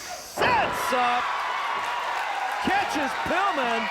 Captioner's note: audience cheers